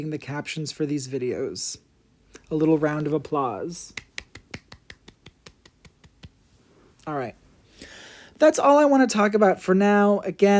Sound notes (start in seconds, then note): 4.0 applause